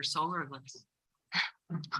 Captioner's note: laughs